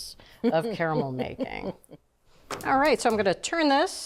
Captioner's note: laughing